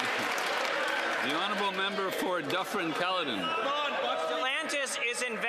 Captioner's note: some Applause